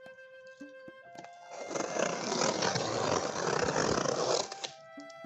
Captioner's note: cutting noise